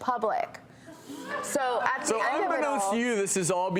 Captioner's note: crowd chuckles, groans